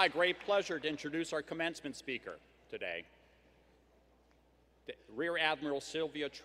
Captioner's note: applause